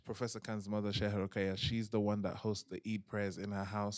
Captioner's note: non-english